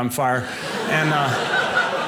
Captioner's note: audience laughing